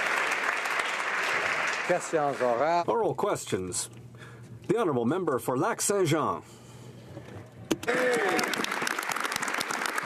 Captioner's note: applause